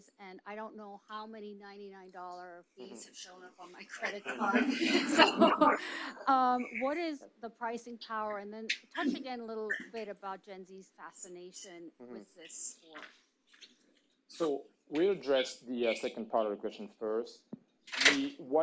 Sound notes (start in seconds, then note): 4.2 audience laughs